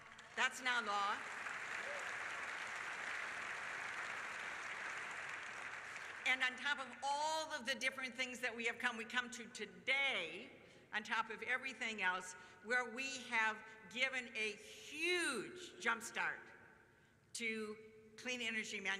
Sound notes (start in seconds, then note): 8.6 applause